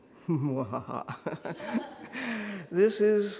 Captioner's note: laughing